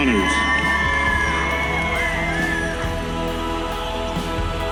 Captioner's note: audience cheers